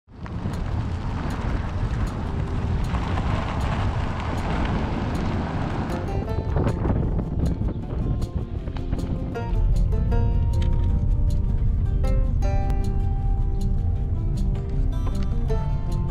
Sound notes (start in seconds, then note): 0.6 gravel crunching; 6.6 upbeat music